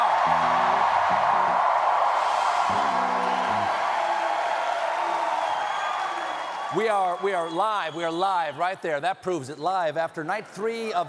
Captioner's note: cheering